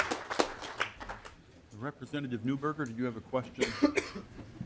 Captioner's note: applause